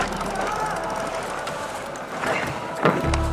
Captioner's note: laughter